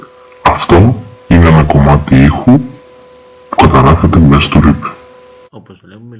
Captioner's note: heavy voice